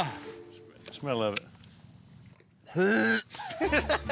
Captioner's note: dry heaving; laughter